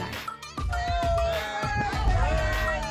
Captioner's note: people chattering; rhythmic music